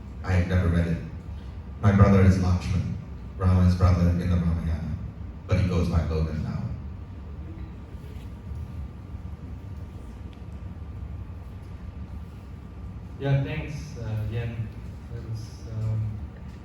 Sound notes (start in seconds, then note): none